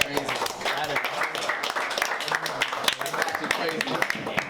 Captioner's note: crowd applauding